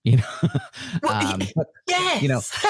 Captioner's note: both laugh